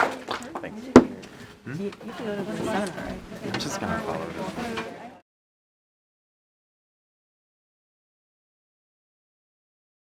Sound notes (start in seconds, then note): 1.1 students chattering